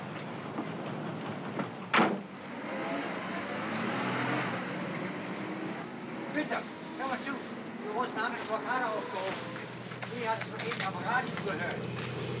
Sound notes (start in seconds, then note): 1.9 cab door closes; 2.4 cab accelerates away; 6.2 worker speaking in German